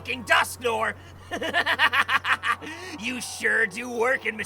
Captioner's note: maniacal laughter